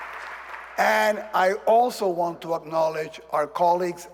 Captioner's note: applause